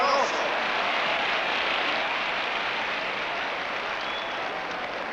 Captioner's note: crowd applause